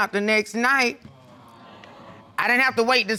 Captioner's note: audience exclaiming